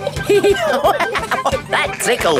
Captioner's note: laughing